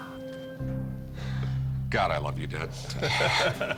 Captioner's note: laughter